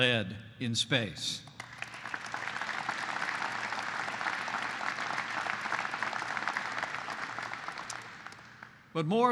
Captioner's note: applause